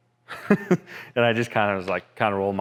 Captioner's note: laughter